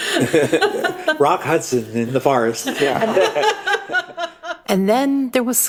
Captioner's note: laughs